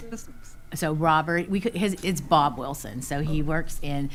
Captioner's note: stammers